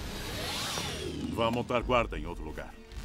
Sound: speaking russian

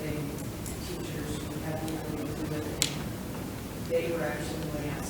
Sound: speaks distantly

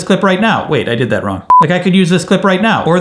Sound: beep

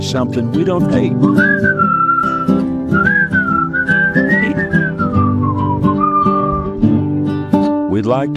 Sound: whistling

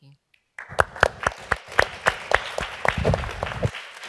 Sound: applause

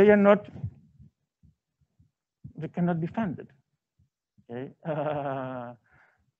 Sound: laughs

